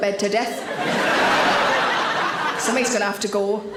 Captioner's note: audience laughing